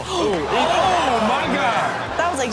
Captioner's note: everyone gasps